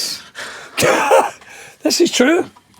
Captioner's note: laughing